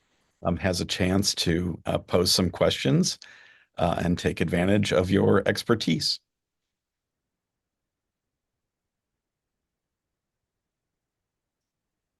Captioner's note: brief pause